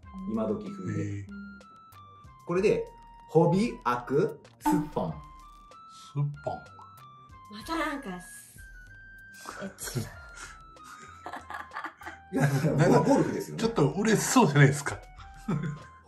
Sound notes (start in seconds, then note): 10.9 laughs